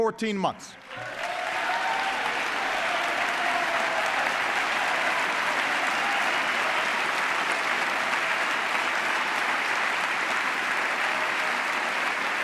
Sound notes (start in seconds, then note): 0.7 applause